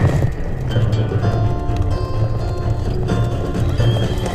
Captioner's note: whinnying